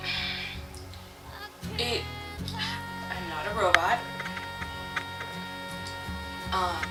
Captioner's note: sighs